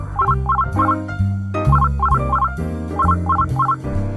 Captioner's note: phone rings